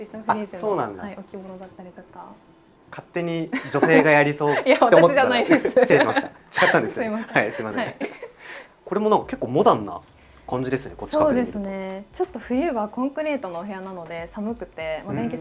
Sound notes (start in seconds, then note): 3.4 laughs